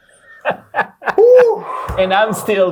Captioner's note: guy laughs; exhales deeply